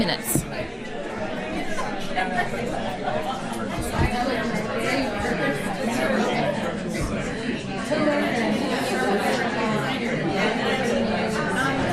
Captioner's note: audience talking